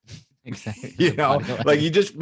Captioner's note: both laughing